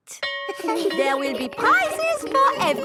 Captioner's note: school bell rings